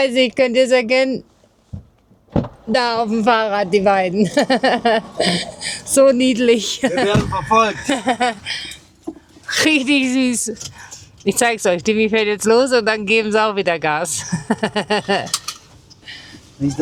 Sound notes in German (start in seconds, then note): 6.7 gelächter; 14.2 gelächter